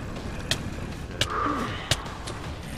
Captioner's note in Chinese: 人物被打的聲音